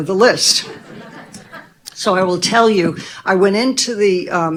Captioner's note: audience laughing